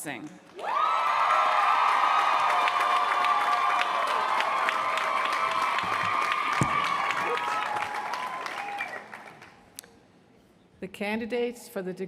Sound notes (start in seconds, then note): 1.0 applause; 5.1 cheers & applause